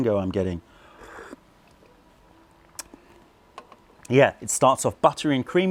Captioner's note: sips tea